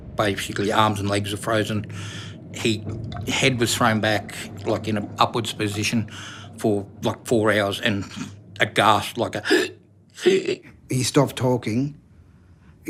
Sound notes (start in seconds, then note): 10.0 gasping